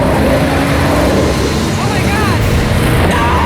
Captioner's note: engine revving